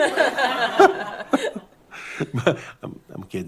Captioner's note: laughter